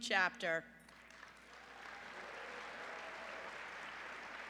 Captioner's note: applause